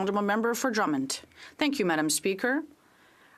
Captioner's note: speaking French